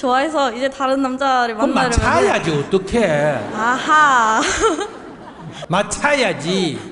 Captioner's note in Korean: 웃음